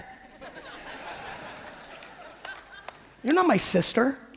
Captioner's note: audience laughing